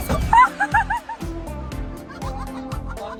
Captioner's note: door closes